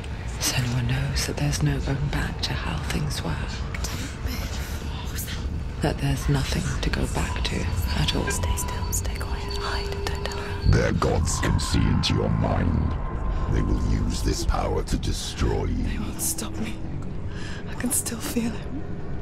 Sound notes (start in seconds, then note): 8.7 whisper